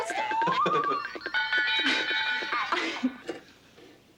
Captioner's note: Casey laughs